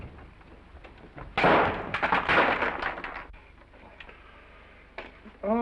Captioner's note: door slams; glass shattering